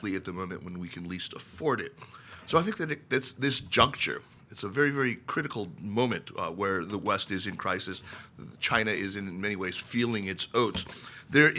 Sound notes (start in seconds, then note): none